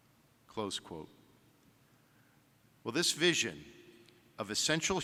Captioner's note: none